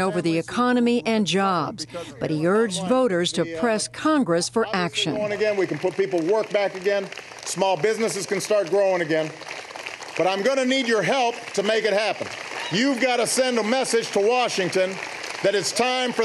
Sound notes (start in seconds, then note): 9.3 applause